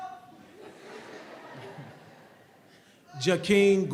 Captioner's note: audience laughs